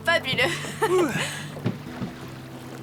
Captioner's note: laughs